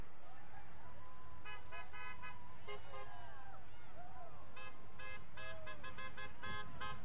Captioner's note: vehicles honking; people cheering